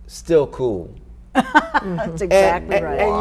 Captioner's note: laughing